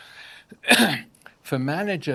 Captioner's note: coughs